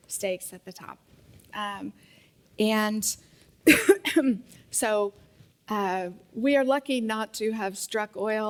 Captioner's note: cough